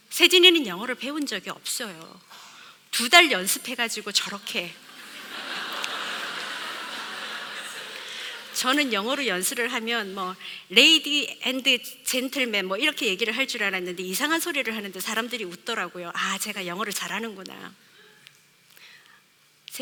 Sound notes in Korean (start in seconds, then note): 4.8 웃음